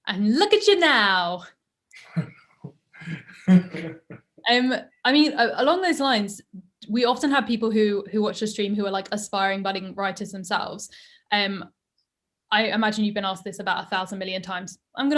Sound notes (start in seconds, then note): 3.0 Ta-Nehisi chuckles